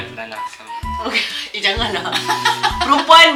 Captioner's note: laugh